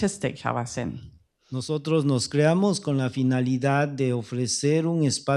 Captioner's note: speaking spanish